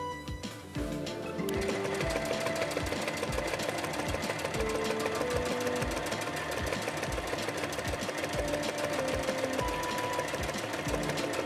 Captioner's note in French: bruit de machine à coudre